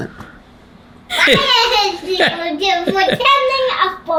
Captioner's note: chuckles